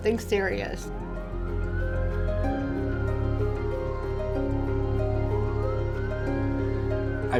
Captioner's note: dramatic, melancholy music; ambulance siren wailing